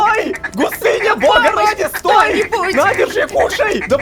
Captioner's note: screamer